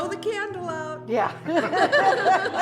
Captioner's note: laughs